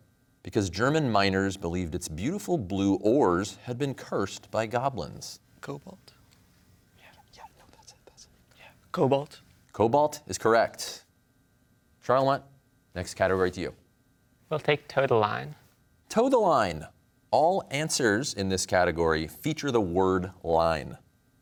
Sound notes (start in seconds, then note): 6.5 whispers